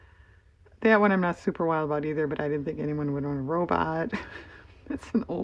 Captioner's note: laughs